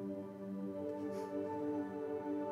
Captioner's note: Chuckles